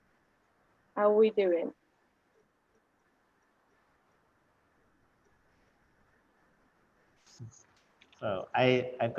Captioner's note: silence; silence